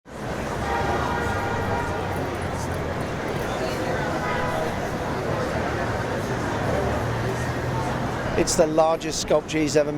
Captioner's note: street noise